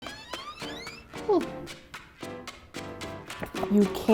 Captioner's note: door creaking; upbeat music